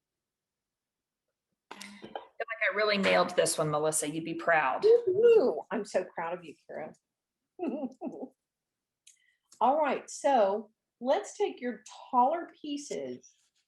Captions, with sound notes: - Looks like, I really nailed this one, Melissa, you'll be proud. - So true, I'm so proud of you, Kara (chuckles). All right, so let's take your taller pieces